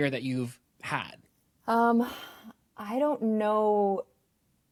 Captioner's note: sighs